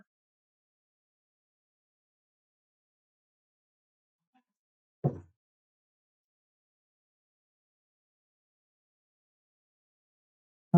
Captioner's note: silence